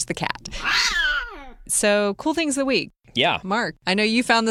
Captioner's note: cat meowing